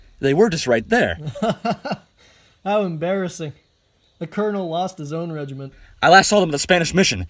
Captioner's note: chuckling